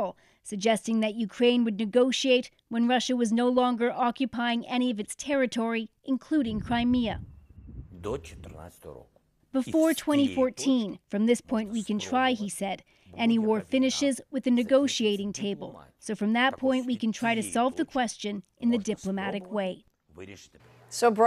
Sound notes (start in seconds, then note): 9.8 speaking alternate language